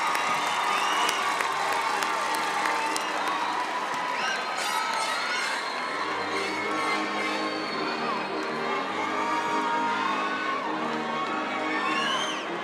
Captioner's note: cheering and applause